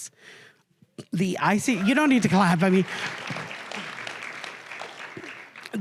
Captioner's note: cheers